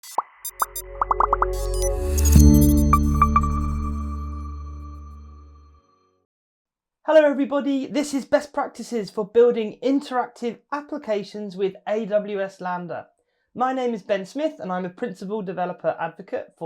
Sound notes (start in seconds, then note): 0.1 uplifting music; 0.9 bubbles popping